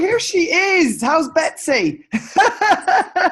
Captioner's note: laughs